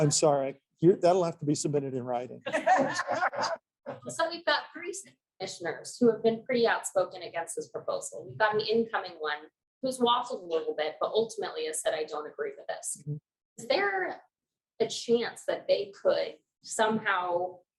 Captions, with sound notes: Doomsday? I'm sorry. That'll have to be submitted in writing. [lauging] So we've got city commissioners who have been pretty outspoken against this proposal. We've got an incoming one who’s waffling a little bit, but ultimately has said that I don't agree with this. Is there a chance that they could somehow